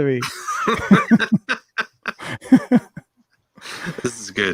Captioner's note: both laughing